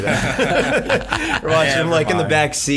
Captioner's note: laughing